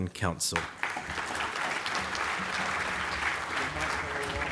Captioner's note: applause